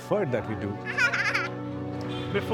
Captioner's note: giggles